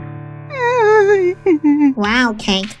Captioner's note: pitiful whimper